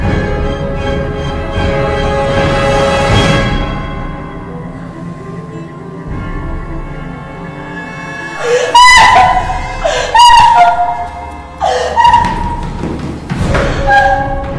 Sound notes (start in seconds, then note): 10.6 Ciara cries